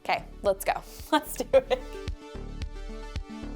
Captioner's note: laughing; upbeat music